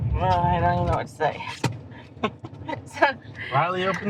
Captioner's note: laughing